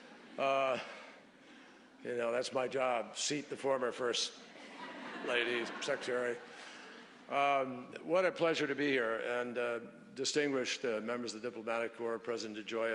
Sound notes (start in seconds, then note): 6.2 laughter